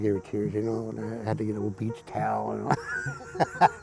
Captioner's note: chuckles